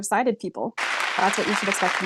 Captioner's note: clapping